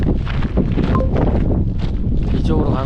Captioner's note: the wind is absolutely roaring